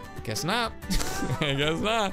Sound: laughs

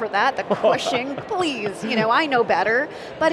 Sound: laughing

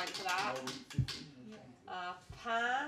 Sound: wheel clacking

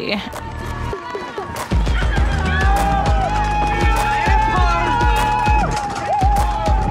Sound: upbeat music; crowd cheering

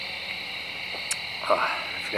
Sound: lips smack

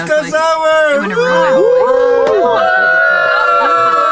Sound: cheers

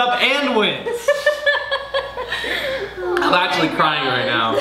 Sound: laughs

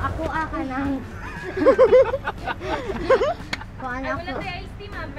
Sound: laughing

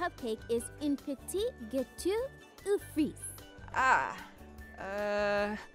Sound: speaking in France

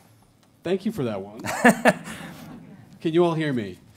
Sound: audience laughing

